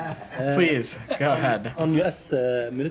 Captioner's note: laughter